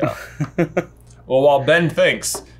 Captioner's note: laughing